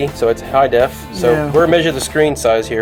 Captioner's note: voiceover